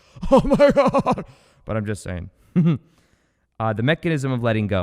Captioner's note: chuckles